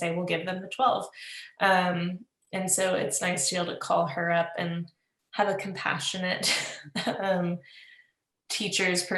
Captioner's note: laughs